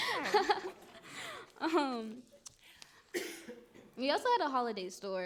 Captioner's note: chuckles loudly